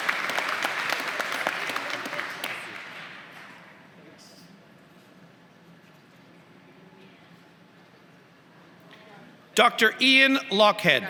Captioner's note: applause; applause